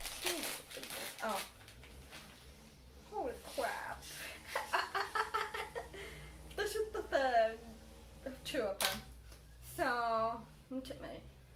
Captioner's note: laughing